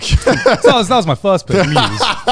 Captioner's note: laughing